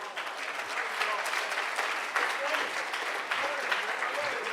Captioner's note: audience applauding